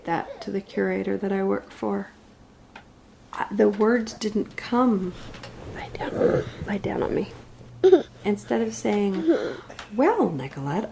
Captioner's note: whispers